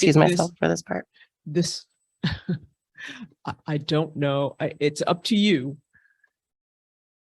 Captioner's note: chuckles